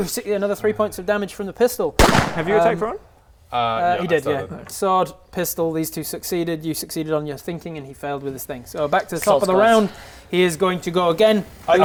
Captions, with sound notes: another 3 points of damage from the pistol *POW!* have you attacked Rowan? uh yeah I started he did yeah sword, pistol, these two succeeded you succeeded on your thinking and he failed with his thing - so back to the top of the round - soz guys he is going to go again